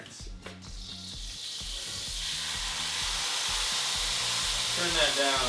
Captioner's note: pan sizzling